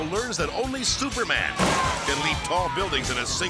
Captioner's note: onlookers shouting; bike crashes